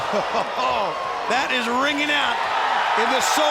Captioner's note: chuckles